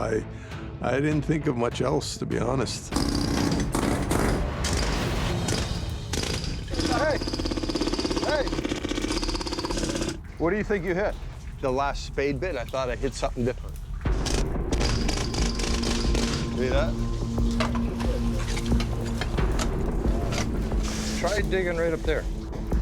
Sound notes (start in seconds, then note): 2.9 jackhammer whirring; 6.0 jackhammer straining